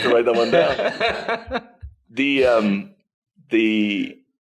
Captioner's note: laughing